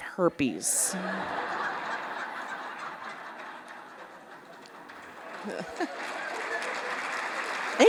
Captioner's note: laughter and Applause